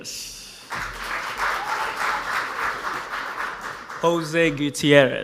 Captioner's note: audience applauds